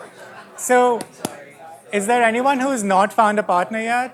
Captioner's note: claps hands